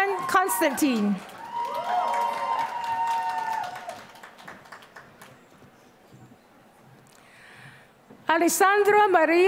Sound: applause

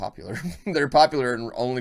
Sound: chuckle

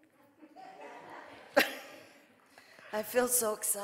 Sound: audience laughing

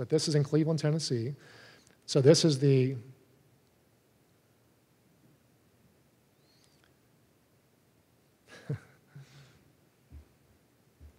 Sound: laugh

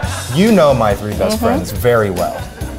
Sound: audience laughs

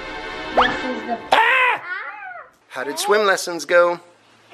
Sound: suspenseful music; screams

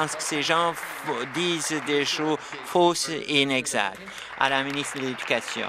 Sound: applause

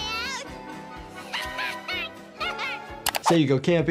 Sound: Lisa laughing

